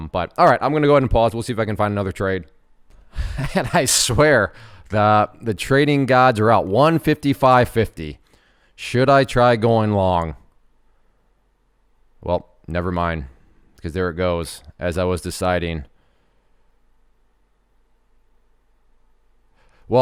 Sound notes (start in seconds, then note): 3.1 chuckles